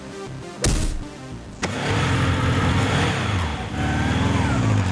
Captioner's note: fist whacks; kick thwacks; motorcycle rumbling; motorcycle revving